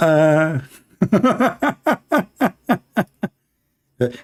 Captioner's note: Ketawa